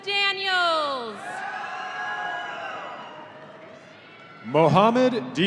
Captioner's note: audience cheering